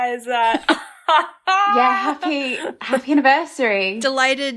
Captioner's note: laughing